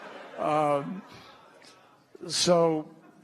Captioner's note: laughter